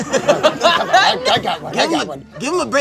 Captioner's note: laughs